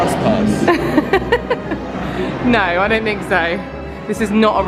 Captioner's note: laughing